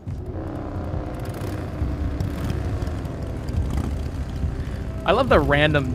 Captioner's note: motorcycle engines rumbling